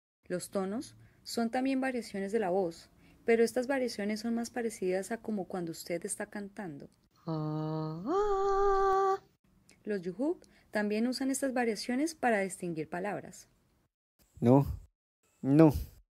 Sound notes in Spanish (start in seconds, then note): 7.2 persona haciendo variaciones de la voz